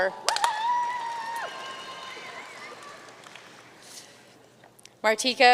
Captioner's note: audience cheering and applauding